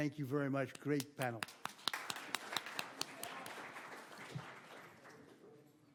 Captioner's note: applause